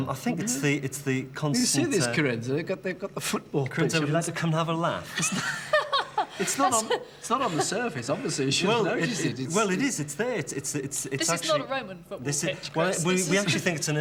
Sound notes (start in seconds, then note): 5.1 laughing